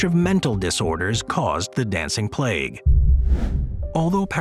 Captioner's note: screen wipe whooshes